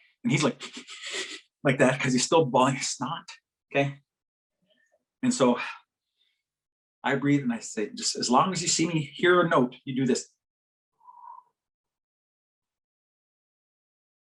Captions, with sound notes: and he's like like that because he's still blowing his snot okay and so I breathe and I say just as long as you see me hear a note you do this [exhales]